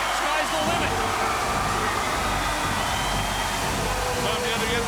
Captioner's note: fireworks sizzling